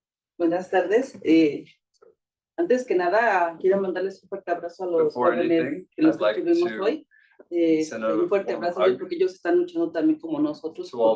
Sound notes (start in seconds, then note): 0.6 speaking Spanish; 7.8 speaking Spanish